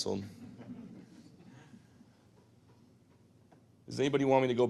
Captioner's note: audience chuckles